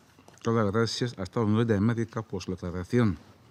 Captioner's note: in Spanish